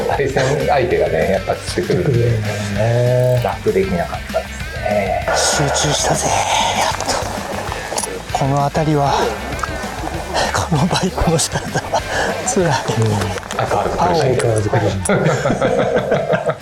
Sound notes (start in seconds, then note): 13.3 laughs